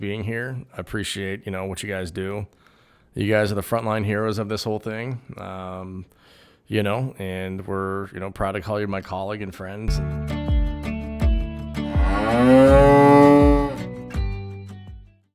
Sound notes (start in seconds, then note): 9.9 upbeat music; 10.2 cow mooing